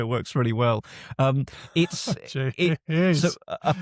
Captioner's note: laughs